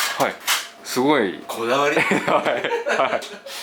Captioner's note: laughs